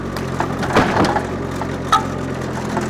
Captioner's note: wood thud; telehandler engine rumbling continues